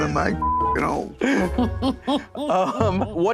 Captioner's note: laughter